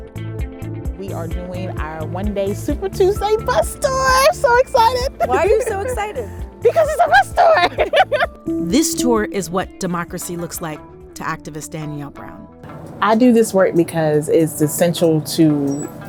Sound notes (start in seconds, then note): 7.7 laughs